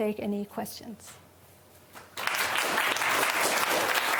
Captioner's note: applause